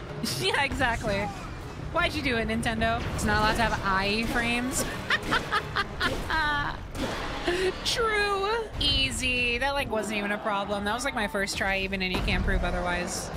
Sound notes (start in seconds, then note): 0.2 laughing; 4.9 fake Laughter